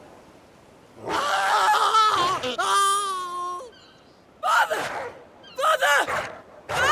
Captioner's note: screams